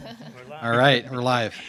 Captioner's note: board members giggling